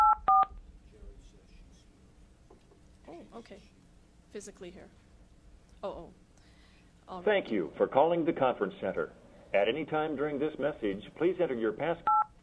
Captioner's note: phone dialing